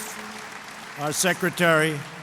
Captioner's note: applause